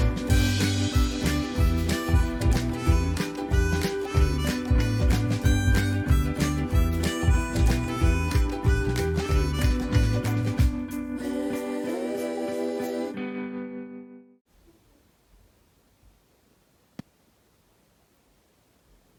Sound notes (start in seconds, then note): 14.5 silence